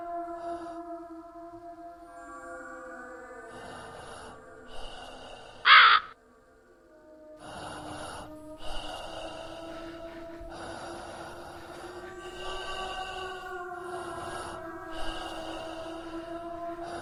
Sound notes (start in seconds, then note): 5.0 crow caws; 7.4 man breathing heavily; 7.7 eerie haunting music